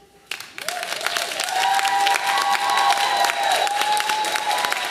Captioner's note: audience applauding